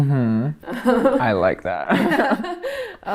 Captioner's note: laughing